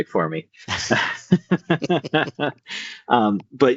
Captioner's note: laughter